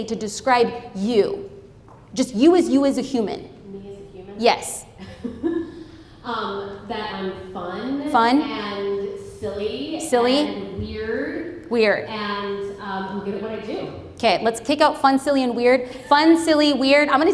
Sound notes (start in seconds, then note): 5.0 chuckles